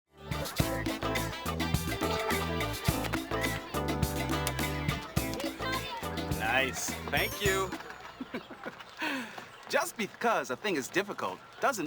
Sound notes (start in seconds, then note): 0.1 upbeat music; 7.7 laughs